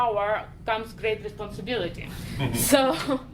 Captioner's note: chuckling